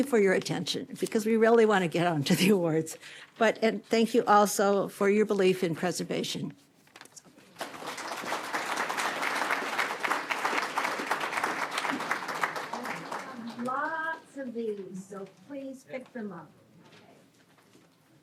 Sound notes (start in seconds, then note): 7.5 applause